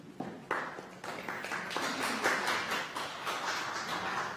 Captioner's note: clapping